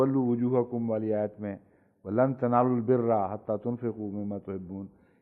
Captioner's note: Arabic